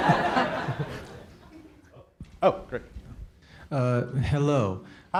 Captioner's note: audience laughs